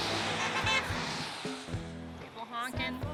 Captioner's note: car honking